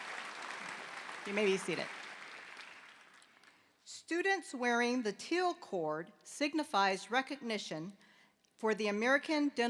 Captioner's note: applause